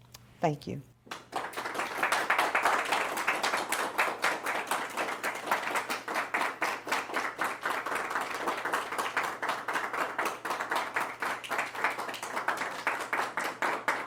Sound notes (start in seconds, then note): 1.5 group applauds; 7.2 applause continues